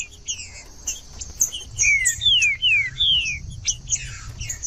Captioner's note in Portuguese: trinca ferro cantando